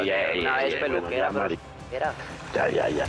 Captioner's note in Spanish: Hablan al unísono